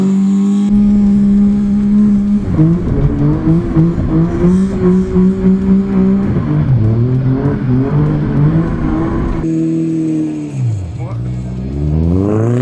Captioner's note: engine revving; speaking foreign language; engine revving